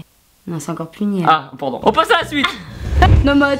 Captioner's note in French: Rire